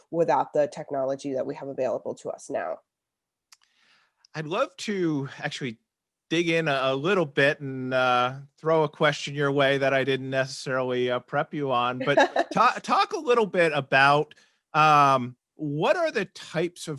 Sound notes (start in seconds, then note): 12.0 laughs